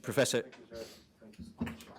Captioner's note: faintly speaking